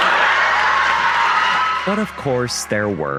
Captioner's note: over intercom; laughing and cheering